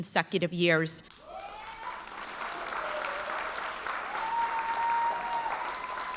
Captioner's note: audience cheers and applauds